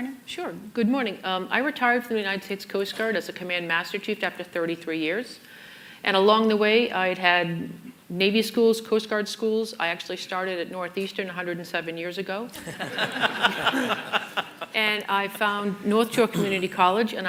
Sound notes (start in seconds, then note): 12.5 laughter